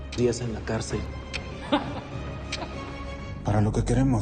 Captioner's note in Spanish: Risas